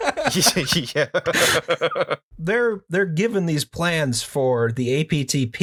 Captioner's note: laughter